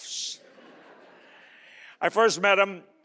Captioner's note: audience laughing